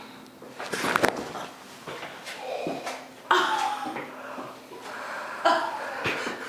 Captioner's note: joints cracking; relieved breathing